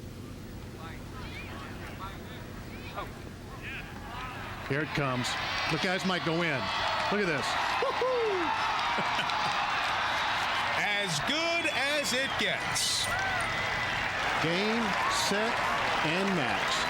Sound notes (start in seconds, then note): 1.3 <i> crowd cheering</i>; 7.8 <i> announcer laughs</i>; 13.0 <i> crowd cheering</i>